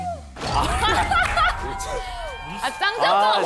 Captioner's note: laughing